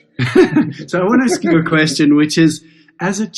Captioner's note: chuckles